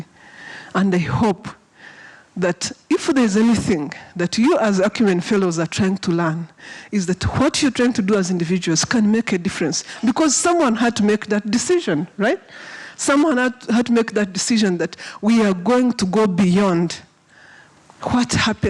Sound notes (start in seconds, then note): none